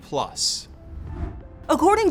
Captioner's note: transition whooshes